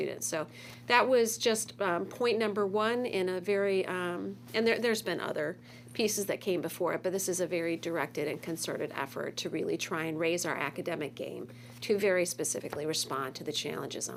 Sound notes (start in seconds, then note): none